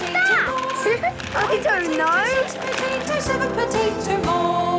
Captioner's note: laughing